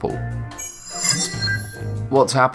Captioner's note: sharp chiming